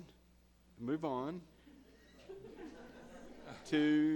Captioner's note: all chuckle